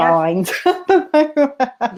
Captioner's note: laughter